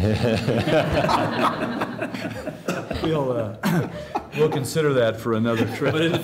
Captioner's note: laughter